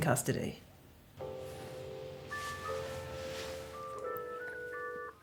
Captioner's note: Penny’s mobile phone rings